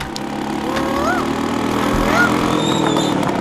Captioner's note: mimicking cuckoo's voice